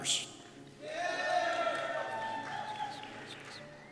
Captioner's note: cheers